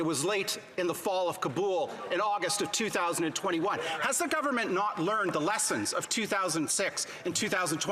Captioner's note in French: voix de l'interprète